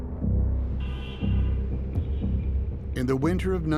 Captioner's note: car horn honks